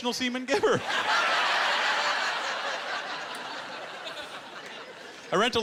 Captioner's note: laughter